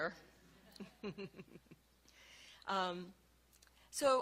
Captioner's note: laughing